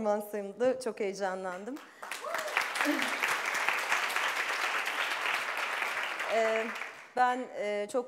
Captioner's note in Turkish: Alkış